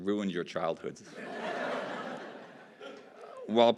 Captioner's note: laughter